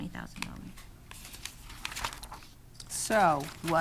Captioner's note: pages rustling